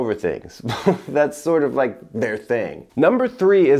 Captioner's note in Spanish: risas